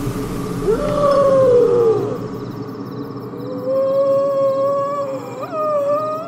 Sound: ghastly voice

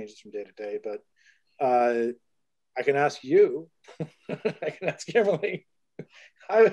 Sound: laughs

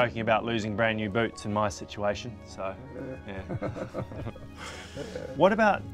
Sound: both chuckling

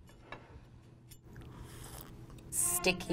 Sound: slurping

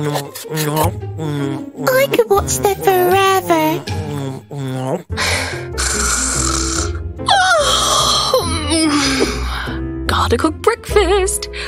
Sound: little snores, then sounds of stretching

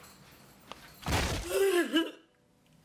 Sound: door slams; Crystal crying

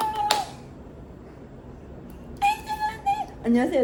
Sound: clap Clap Clap

